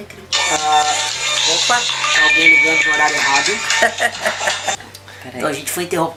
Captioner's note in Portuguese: celular tocando